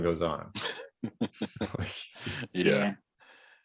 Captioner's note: laughs